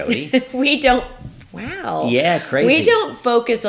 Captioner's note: laughs